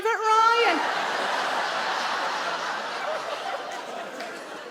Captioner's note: audience laughing